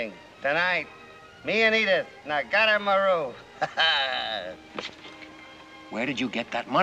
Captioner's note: laughs